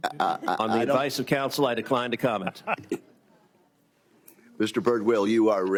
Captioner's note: laughter